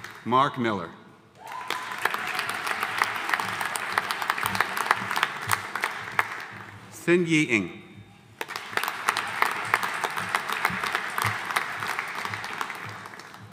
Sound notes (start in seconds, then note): 1.4 audience cheering; 1.4 audience applauding; 8.3 audience applauding